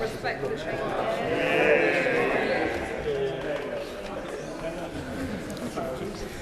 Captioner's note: general background noise in the Chamber